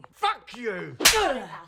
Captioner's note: slapping